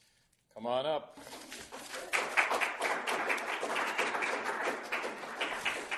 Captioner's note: applause